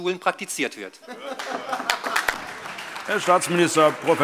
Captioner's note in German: Beifall SPD und AfD